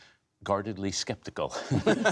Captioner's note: laughter